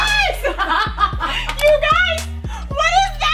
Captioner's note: laughing